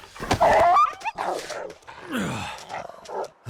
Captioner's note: fist slams; wolf yelping; panting